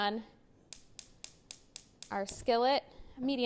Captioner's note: cooktop knob clicking